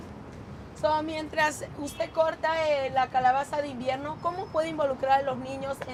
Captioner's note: translator speaks in Spanish